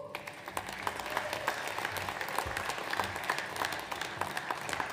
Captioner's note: audience applauds